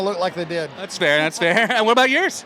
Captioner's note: laughs